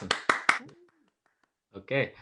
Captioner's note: clapping